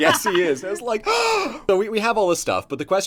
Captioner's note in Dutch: snakt naar adem